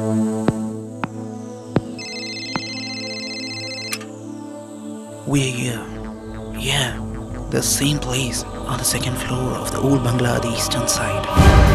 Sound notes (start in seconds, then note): 1.7 footsteps; 1.8 cellphone rings